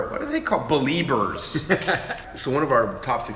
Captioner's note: chuckle